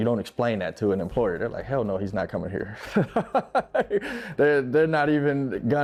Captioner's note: laughing